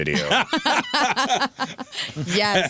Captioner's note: laughing